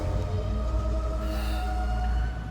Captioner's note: gasp